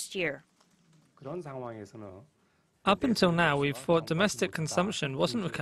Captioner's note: Korean